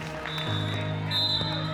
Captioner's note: crowd clapping and cheering; whistle blowing